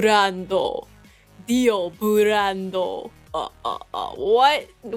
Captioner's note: vampire sound